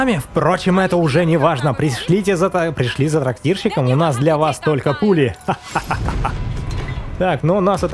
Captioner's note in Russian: смех